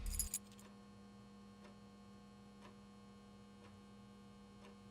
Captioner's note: keys clinking